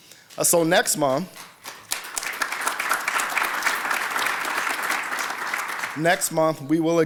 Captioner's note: applause